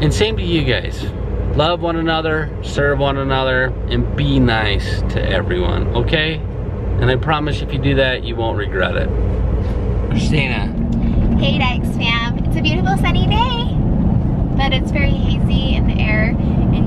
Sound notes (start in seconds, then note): none